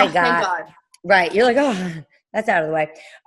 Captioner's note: sighing with relief